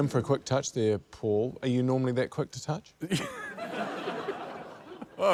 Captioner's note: laughter